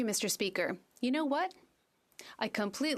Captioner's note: speaking French